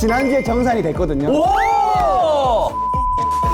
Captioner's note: exclaiming